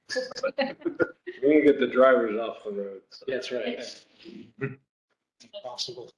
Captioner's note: laughter